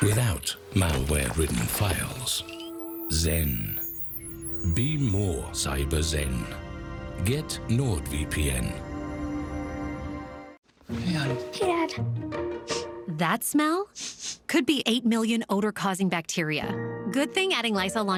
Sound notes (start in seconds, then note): 14.0 sniffs